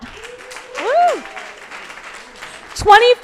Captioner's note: crowd applauding